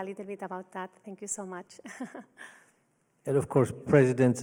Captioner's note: laughs